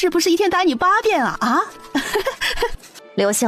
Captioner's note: laughs